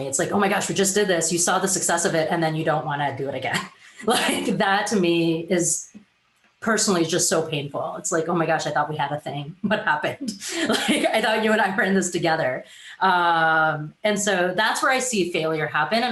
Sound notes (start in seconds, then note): 4.2 giggles; 10.4 laughs